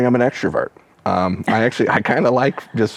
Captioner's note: chuckles